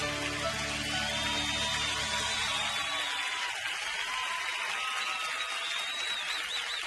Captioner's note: audience cheering and applauding